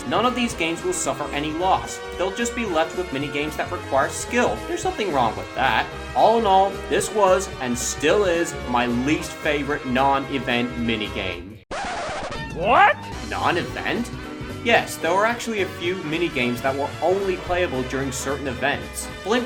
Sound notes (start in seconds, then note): 11.7 record scratch